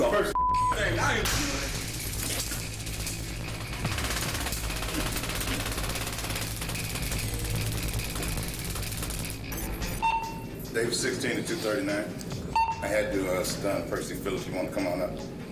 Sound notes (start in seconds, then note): 3.8 taser clicking; 10.7 bailiff on radio